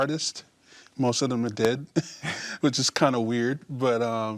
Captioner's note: chuckles